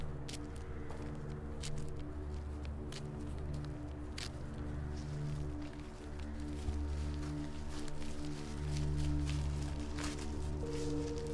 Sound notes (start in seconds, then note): 2.1 footsteps plodding continues; 5.4 leaves rustling